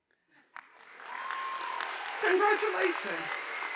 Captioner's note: audience applauding